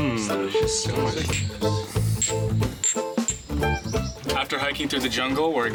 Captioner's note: glasses clinking